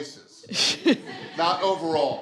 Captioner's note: audience laughing